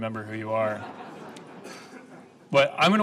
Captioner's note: laughing